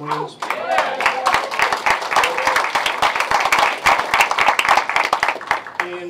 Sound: applause

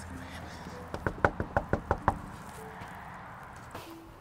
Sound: knocking on door

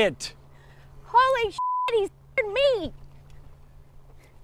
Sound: beep

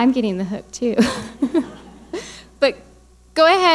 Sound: laughing

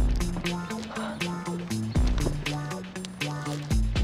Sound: gasps

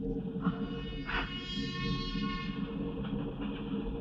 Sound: train horn blares

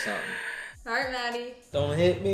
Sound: gasps

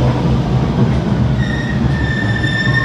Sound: train slowing down and stopping sound starts playing

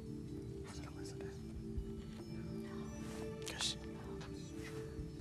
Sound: whispering

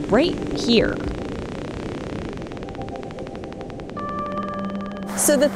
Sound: geiger counter ticking

